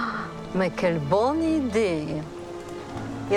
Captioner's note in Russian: говорит по-французски